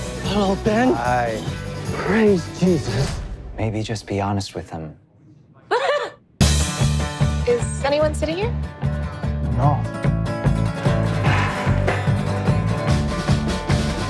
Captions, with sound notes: - Hello, Ben. - Hi. - Praise Jesus. - Maybe just be honest with them. (Alice laughs) - Is anyone sitting here? - No. (upbeat music)